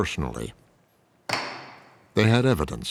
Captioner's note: gavel bangs